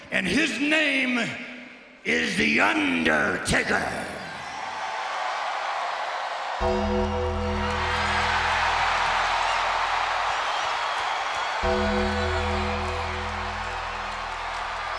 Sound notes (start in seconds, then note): 4.8 audience cheers; 6.6 ominous music; 8.1 audience cheers